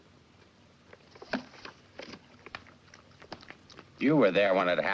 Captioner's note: dog lapping milk